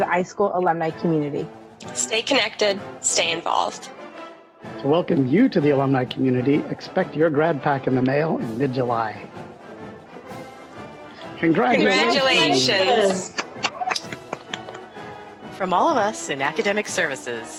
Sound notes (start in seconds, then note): 12.4 applause